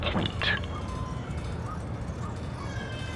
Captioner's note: whiskey clinks